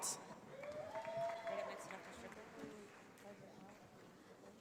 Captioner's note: audience applauding